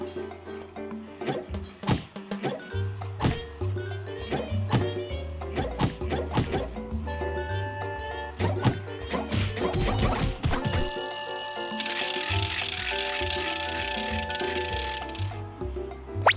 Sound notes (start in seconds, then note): 10.6 bell ringing; 11.2 tickets clicking